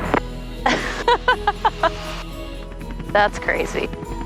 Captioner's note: laughing